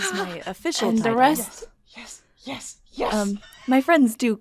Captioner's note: laughs